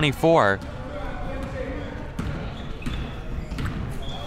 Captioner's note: crowd murmuring